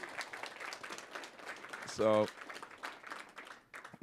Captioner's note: applause